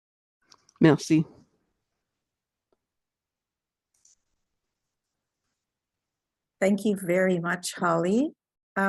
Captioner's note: speaking French